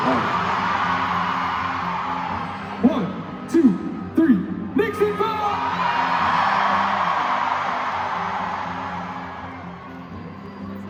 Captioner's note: crowd cheering